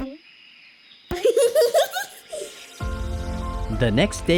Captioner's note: giggles